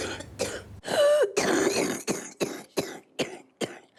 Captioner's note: coughs